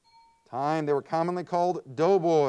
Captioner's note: timer bell dings